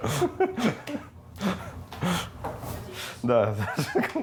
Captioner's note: laughing